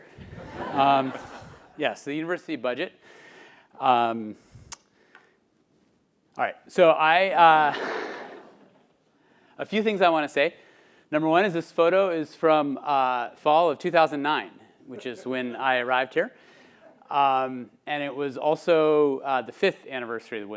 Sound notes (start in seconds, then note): 0.3 laughing; 7.3 laughing